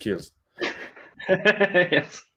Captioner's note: laughter